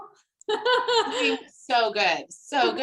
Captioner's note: laughing